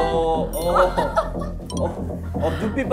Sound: excited

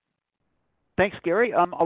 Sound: voiceover

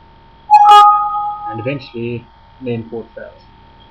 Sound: bell rings

